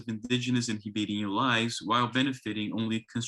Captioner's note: speaks in foreign language